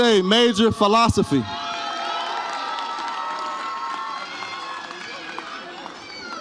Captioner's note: audience applauds and cheers